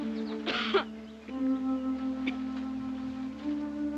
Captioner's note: coughing